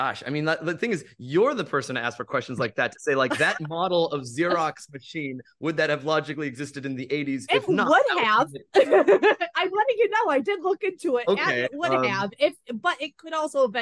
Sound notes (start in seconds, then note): 8.4 laughs